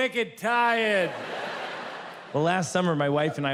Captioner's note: audience laughs